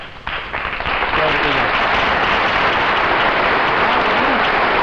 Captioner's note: audience applauding; audience applauding drowning out Ed and Catherine speaking